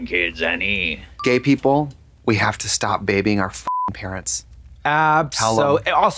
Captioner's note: beep